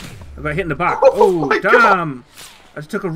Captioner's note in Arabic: ضحك